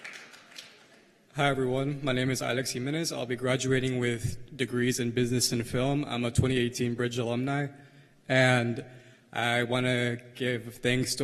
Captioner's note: cheers and applause